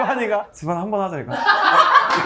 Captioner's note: deadpan